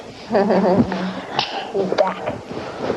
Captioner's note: laughter